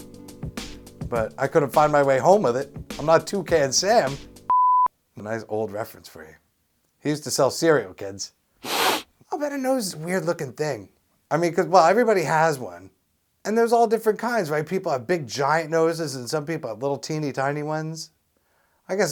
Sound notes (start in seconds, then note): 4.5 SFX: beep; 8.6 SFX: sniff